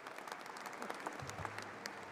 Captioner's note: applause